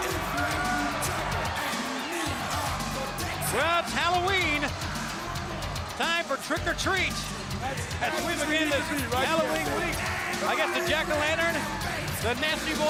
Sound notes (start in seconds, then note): 0.2 crowd chatter; 4.6 crowd cheering